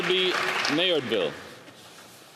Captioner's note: applause